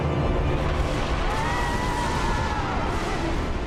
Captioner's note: thunder rumbling